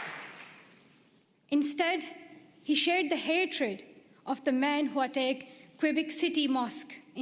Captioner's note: applause